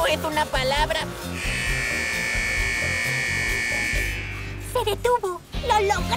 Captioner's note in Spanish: alarma